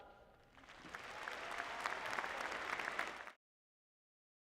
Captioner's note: applause